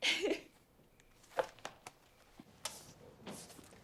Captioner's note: Eliza laughs